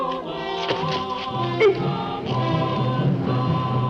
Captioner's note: moan